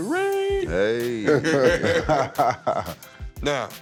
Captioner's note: laughter